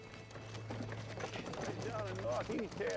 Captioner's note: hoofbeats